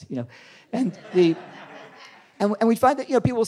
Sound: audience laughing

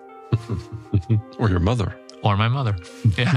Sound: laugh

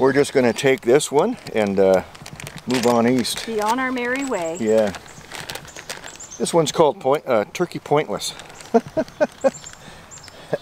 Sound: chuckles

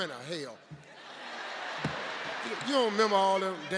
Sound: audience laughing

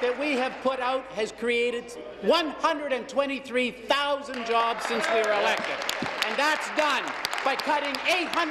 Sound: applause

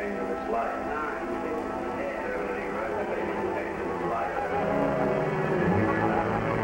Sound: distorted voices of the doctor and nurse in the background; dramatic music

